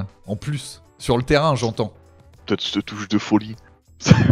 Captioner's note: laugh